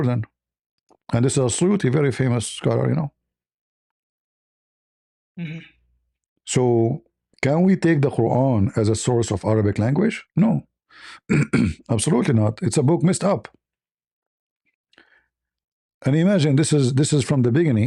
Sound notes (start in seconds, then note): 11.2 clears throat